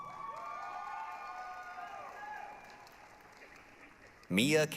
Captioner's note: applause, cheering